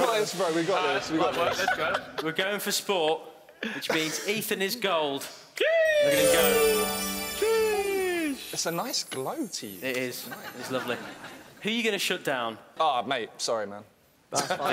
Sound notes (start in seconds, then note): 5.8 chiming; 14.5 laughing